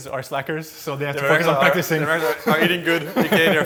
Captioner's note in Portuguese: risos